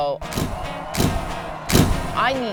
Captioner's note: upbeat music; pictures snapping